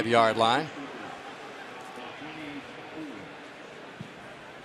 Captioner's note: pa announcement